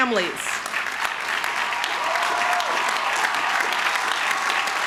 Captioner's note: crowd cheering